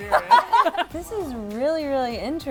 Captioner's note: laughs